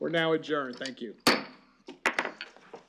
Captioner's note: gavel